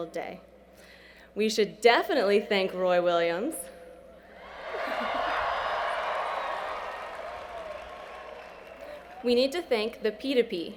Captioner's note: cheering